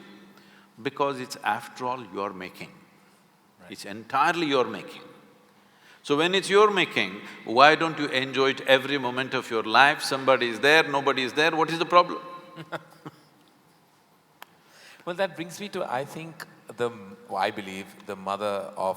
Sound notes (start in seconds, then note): 12.5 Karan Johar laughs